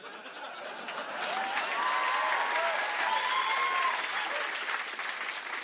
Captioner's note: laughter; cheering, whistling, and applause